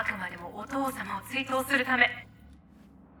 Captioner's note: speaking foreign language